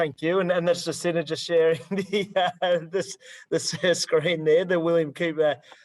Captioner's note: laughs